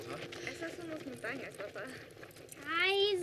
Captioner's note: laughs